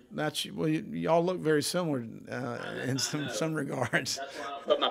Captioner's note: chuckles